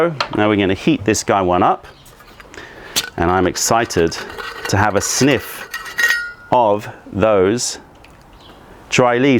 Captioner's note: pouring tea